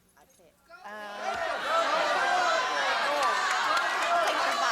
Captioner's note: cheering and applause